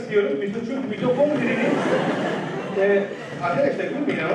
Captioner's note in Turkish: Öğrenciler gülüyor